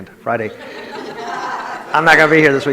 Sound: audience laughs

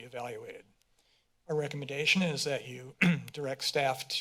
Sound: clears throat

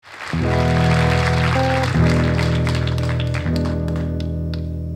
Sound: audience applauding

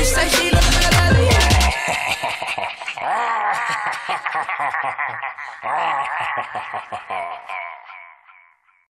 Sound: laughing

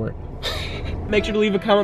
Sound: laughing

